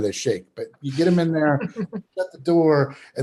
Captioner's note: chuckles